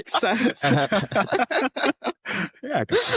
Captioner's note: all laughing